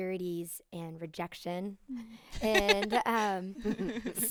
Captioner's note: group laughing